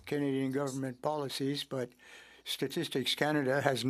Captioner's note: speaking French